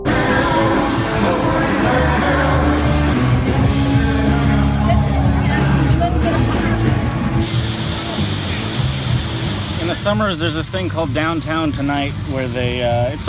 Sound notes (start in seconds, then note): 5.1 background voices; 7.7 rapids rushing